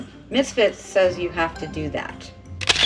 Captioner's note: camera shutter sound; camera shutter shound